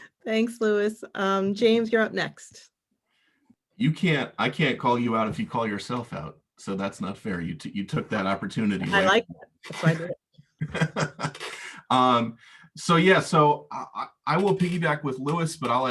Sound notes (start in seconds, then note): 10.6 laughing